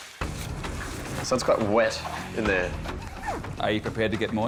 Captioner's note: water splashing